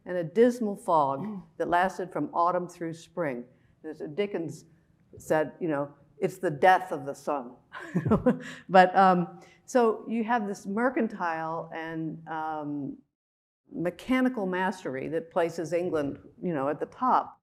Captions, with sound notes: and a dismal fog that lasted from autumn through spring. Dickens said, ‘It's the death of the sun.’ [chuckling] So you have this mercantile and mechanical mastery that places England at the top